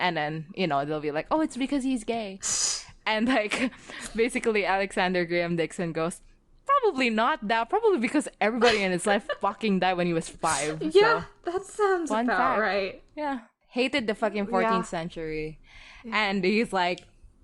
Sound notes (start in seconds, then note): 3.1 both laugh; 8.6 laughing